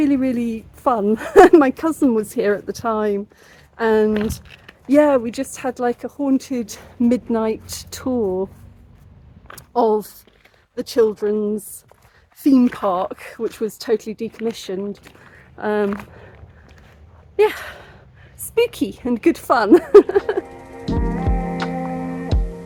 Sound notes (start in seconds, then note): 19.7 laughing